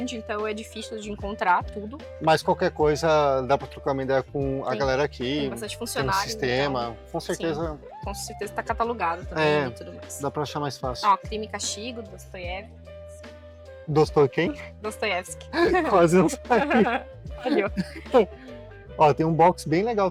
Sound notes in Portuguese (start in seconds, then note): 15.5 risadas